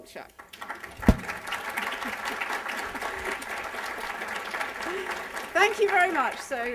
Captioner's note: applause